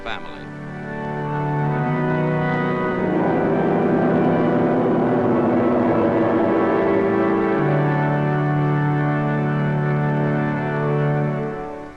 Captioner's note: aircraft noise